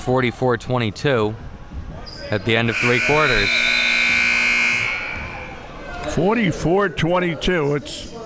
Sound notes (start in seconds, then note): 2.5 buzzer blaring